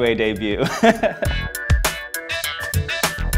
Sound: laughing

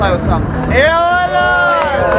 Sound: crowd cheering

